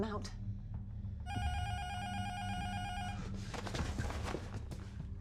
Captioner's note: intercom buzzer rings